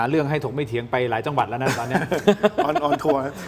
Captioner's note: laughs